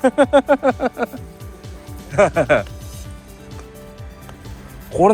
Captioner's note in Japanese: 大笑い